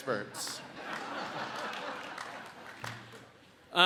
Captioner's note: audience laughs